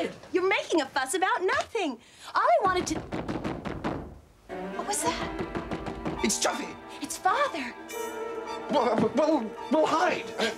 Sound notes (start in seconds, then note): 2.6 strong knocking at the door; 5.1 knocking continues